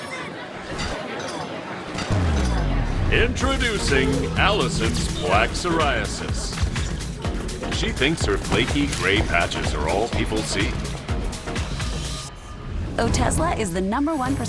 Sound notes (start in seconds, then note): 2.1 swooshing sound